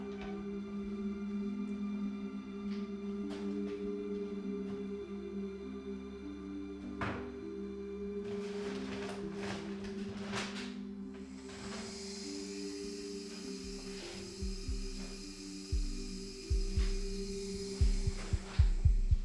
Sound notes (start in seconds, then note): 3.3 threatening ambient music; 8.1 sound of searching; 12.0 sound of water running from a pipe; 17.0 threatening ambient music with pulsing rhythm